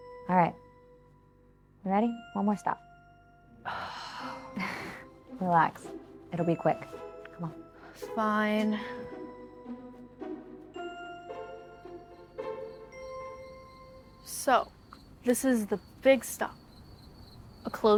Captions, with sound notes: All right, ready? One more stop. (Julie sighs) Relax, it'll be quick. Come on. - Fine. (insects chirping) So this is the big stop, a closed church.